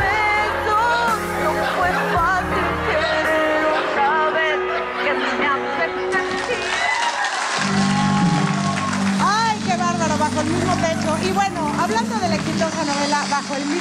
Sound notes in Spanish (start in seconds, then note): 0.0 Música pop; 6.2 Aplausos